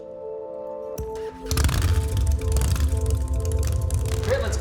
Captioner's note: motorcycle engine starts